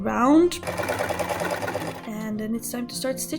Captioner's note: sewing machine noise